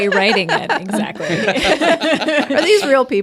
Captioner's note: group laughs